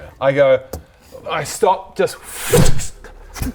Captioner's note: pffff